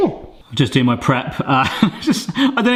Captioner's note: laughs